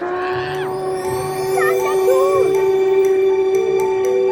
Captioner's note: train horn blasting